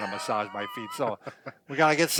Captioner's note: laughs